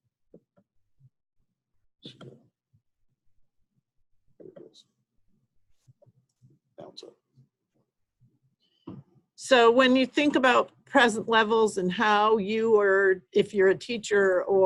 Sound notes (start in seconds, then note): 6.0 silence